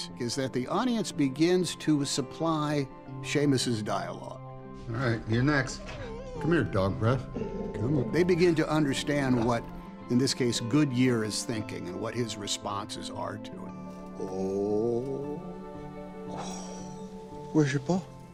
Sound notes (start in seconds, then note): 5.6 dog whimper; 7.4 Goodyear growling